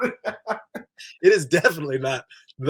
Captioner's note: they laugh